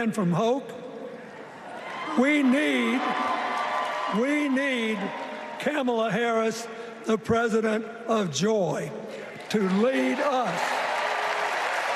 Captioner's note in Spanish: Vitores